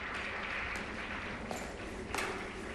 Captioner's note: 'Wheel of Fortune' on TV